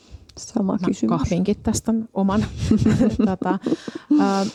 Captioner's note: giggles